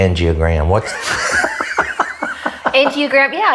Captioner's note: laughs